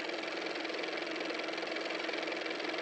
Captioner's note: car motor